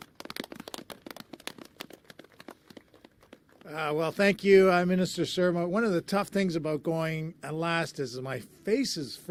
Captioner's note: applause